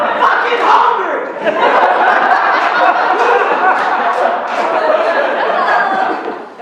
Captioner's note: laughter